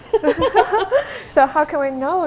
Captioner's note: both laugh